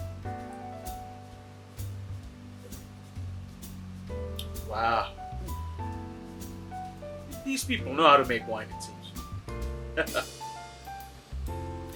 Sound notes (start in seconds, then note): 0.2 relaxed jazz music; 10.0 chuckles